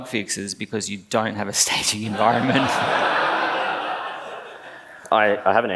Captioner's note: laughs